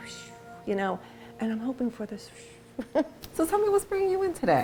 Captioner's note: puffs; puffs